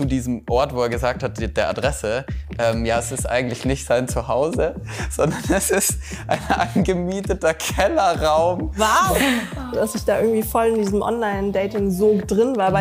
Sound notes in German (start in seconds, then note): 5.0 lachend